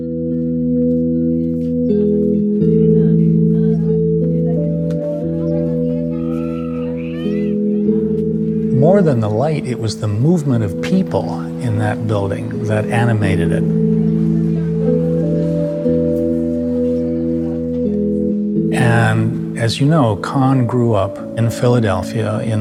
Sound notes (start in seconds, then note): 0.2 soft music; 5.8 all chattering